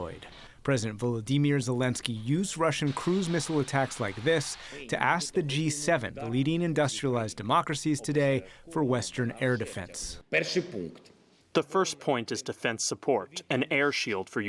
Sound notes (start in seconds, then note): 11.4 through translator